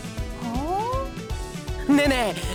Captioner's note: interested hum